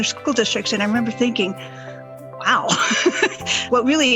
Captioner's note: laughs